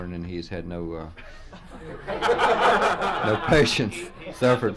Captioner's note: press pool laughs